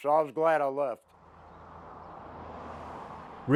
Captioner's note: moving vehicle engine roaring